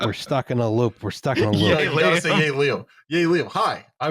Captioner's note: laughing